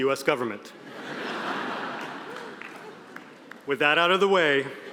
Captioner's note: audience laughing